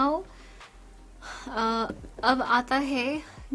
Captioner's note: takes a breath